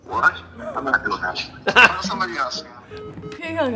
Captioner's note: laughs